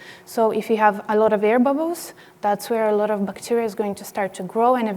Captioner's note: none